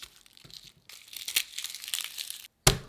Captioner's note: garlic paper rustling